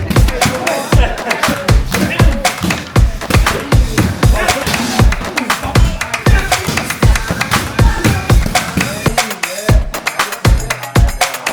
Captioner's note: men chattering